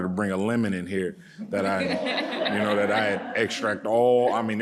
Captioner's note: audience laughing